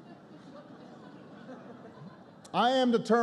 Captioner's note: laughter